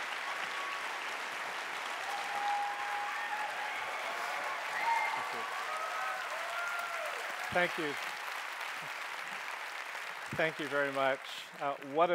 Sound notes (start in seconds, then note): 2.1 cheering